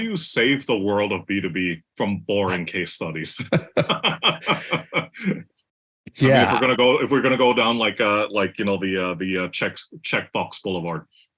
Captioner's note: laugh